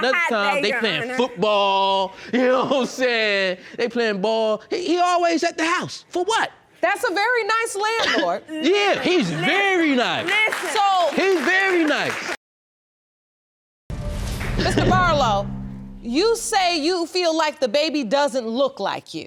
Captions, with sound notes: And then, I come home another time, they playin' football. You know what I'm sayin'? They playin' ball. He always at the house, for what? That's a very nice landlord. Yeah, he's very nice. (AUDIENCE APPLAUDS) He's very nice. Mr. Barlow, you say you feel like this baby doesn't look like you.